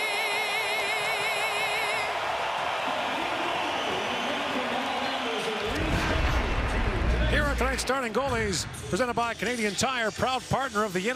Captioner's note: cheering and Applause